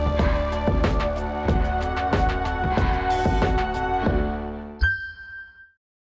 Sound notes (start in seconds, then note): 4.8 ding